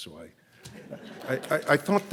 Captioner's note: audience laughs